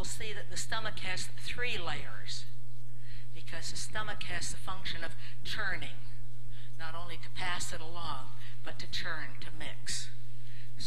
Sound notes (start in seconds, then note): none